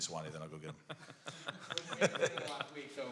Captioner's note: laughter